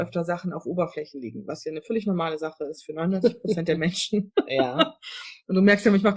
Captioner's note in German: lacht